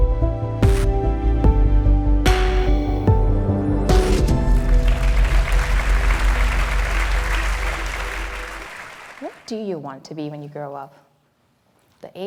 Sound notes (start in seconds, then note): 4.0 audience applauds